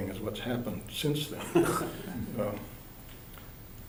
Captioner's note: laughter